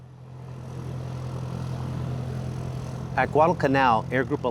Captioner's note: plane engine roaring